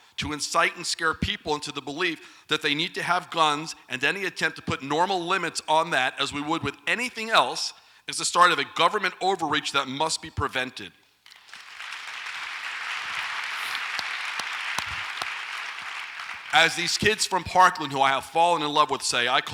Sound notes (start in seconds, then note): 11.2 audience applauds